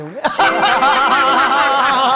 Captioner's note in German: Lachen